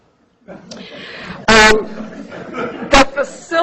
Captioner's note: laughter